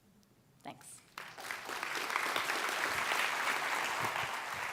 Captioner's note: audience clapping